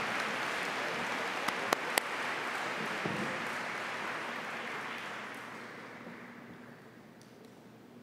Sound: applause

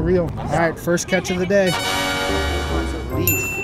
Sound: victorious sound effect

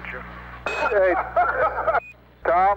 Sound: laughter

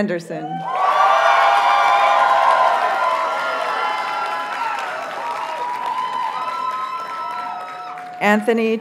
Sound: audience cheers and applauds

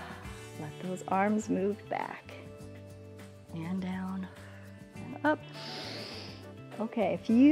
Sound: exhales; inhales

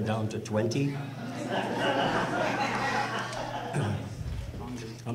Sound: audience laughter

